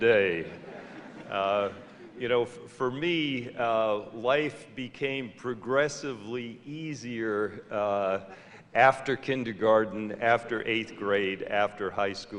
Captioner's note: laughter